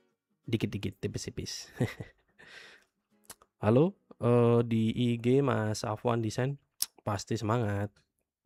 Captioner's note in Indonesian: tertawa